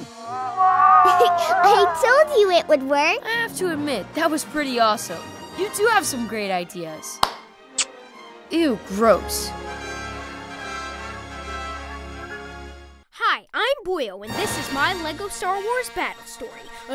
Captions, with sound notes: - I told you it would work. - I have to admit, that was pretty awesome. You do have some great ideas. [HIGH-FIVES] [KISSES] Ew, gross. - Hi, I'm Boyle and this is my Lego Star Wars Battle Story: